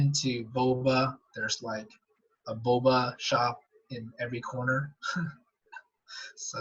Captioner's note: laughs